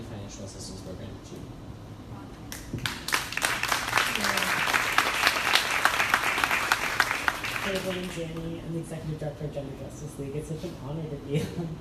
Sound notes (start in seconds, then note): 2.7 crowd applauding